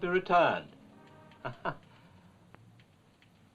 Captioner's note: chuckling